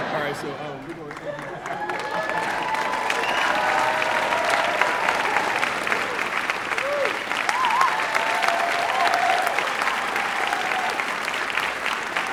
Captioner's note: applause